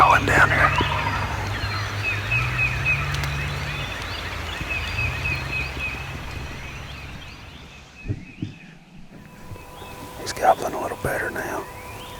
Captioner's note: whispering